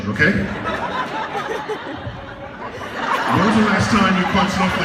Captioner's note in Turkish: Gülüşmeler